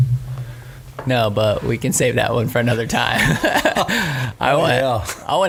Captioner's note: laughs